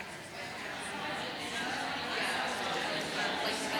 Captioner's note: audience chatter